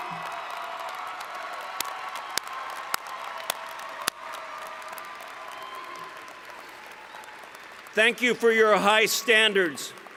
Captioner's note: cheering